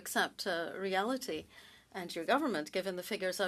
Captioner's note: speaking French